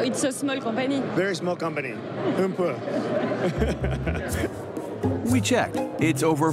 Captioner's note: speaking in foreign language